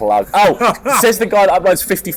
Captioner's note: laughs